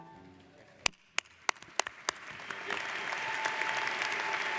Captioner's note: audience applauds